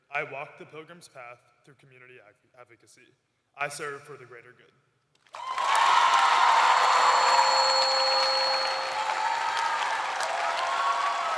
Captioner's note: cheers and applause